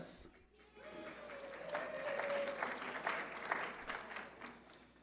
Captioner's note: audience applauding